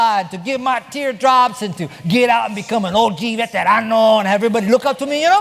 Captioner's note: spanish